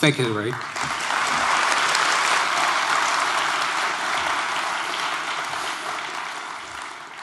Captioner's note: applause